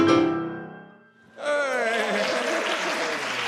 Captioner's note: applause